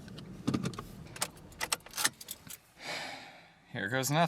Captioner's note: unplugging keys; Keith sighing